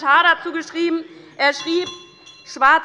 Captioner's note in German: Glockenzeichen der Präsidentin